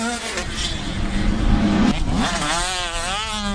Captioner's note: whoosh sfx